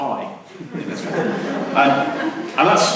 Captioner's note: laughter